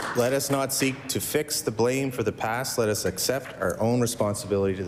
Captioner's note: applause